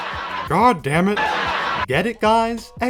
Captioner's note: laughter